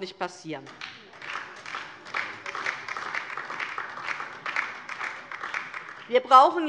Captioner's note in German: Beifall DIE LINKE und vereinzelt SPD